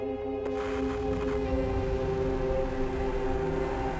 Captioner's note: static buzzing